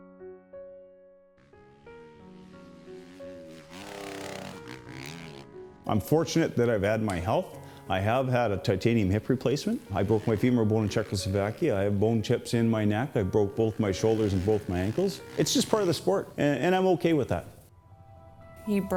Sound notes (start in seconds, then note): 0.2 gentle upbeat music; 1.4 engine roaring